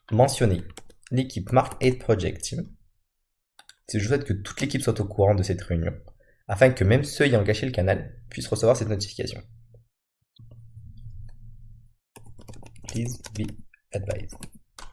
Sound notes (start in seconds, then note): 3.6 Clic; 9.8 Clic